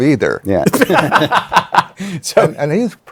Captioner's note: laughter